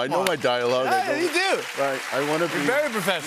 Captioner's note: applause